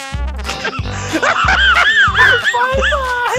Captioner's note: laughs in Mouse